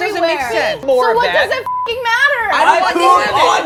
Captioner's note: beep